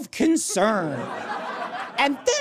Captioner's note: audience laughs